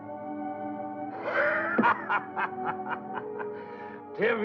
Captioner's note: laughing